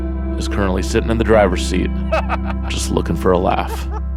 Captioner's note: laughs